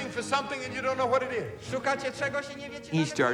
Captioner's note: translates in Polish